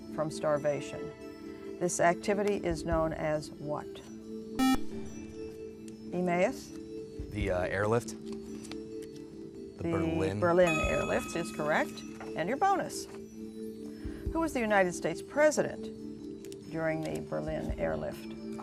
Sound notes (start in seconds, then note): 2.9 buzzer